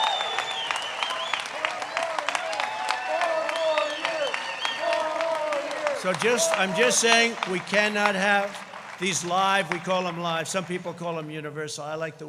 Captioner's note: applause